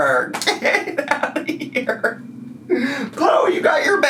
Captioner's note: laughing